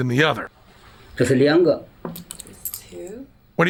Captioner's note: non-english speech